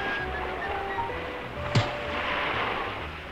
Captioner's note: punch lands